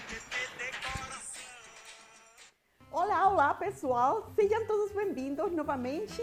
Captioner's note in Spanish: speaking in portuguese